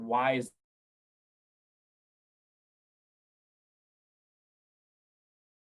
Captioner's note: audio cuts out briefly